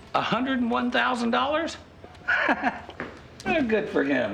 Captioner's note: laughs